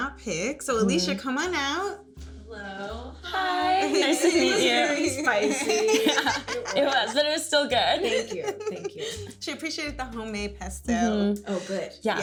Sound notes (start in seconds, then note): 3.8 chuckles